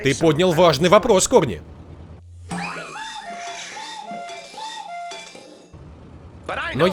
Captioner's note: <i>cuckooing</i>